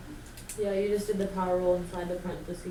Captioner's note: voiceover